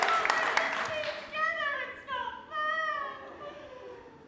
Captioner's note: sobbing